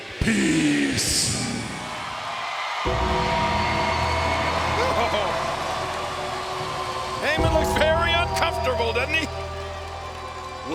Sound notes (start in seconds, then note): 2.6 crowd cheering; 2.8 creepy music